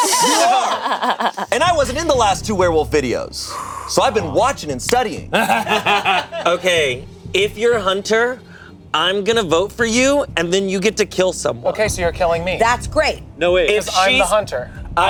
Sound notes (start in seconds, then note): 0.0 laughing; 5.3 laughing